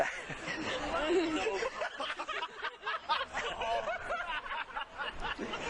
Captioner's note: both laugh